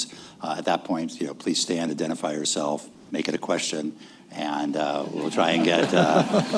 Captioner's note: laughter